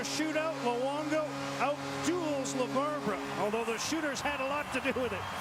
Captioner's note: cheers, applause